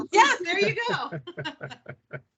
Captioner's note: laughing